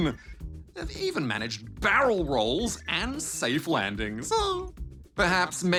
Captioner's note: laughs